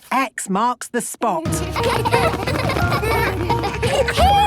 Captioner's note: laughter